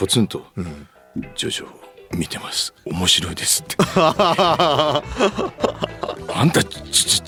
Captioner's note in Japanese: 笑い